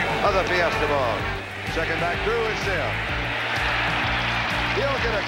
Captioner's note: crowd cheering